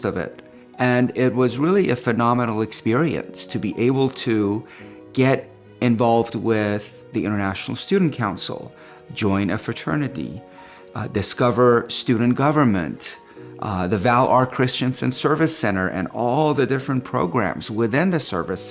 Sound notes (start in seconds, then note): none